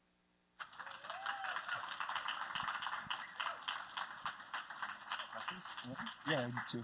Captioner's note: applause